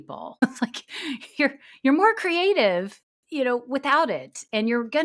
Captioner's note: chuckles